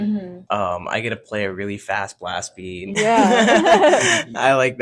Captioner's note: laughs